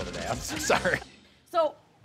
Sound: both laughing

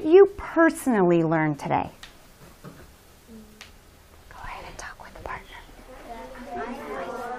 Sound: whispering; students discussing among themselves

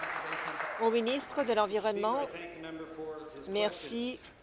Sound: applause

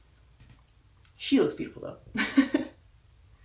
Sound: laugh

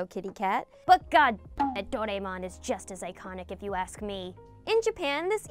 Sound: beep

